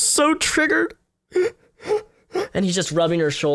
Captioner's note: fake sobs